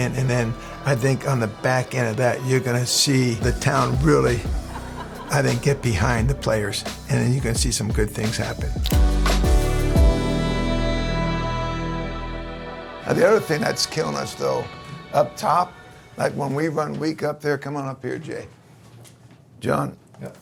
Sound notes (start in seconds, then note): 8.6 camera shutter clicks; 8.6 upbeat chill-out music